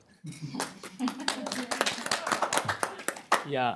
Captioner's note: applause